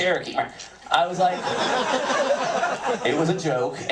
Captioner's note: laughter